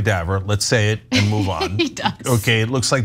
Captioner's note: laugh